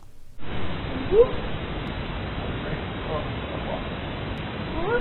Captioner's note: speaking in a foreign language